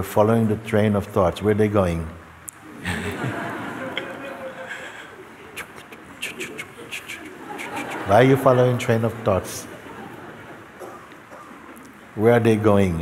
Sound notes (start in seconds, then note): 4.6 laughter; 5.5 Mooji makes train sounds